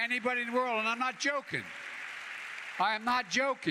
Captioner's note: applause